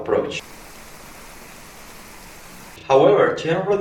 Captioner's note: sound of the rain